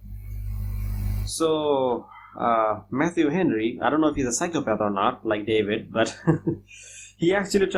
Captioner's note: laughs